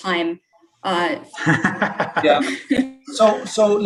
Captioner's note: laughter